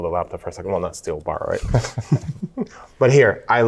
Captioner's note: both laugh